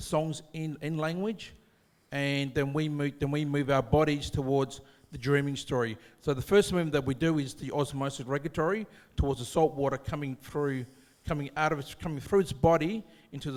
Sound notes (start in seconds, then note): none